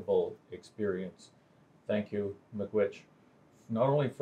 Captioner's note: speaks native language